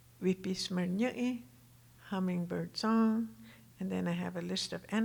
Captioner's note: speaking Tohono O'odham